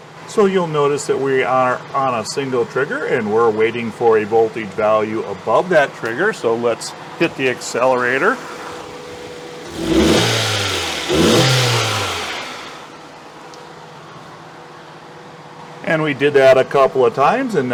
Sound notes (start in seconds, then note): 11.5 engine Revving Up Sound